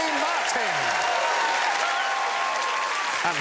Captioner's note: cheering and applause